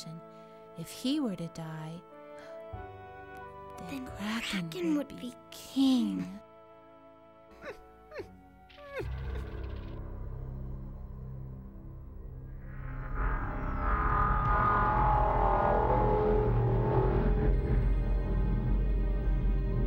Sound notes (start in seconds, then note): 7.0 whining; 9.5 instrumental music